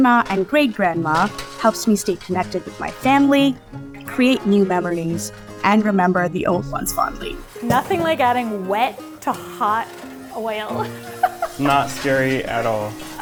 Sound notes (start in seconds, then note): 10.7 laughs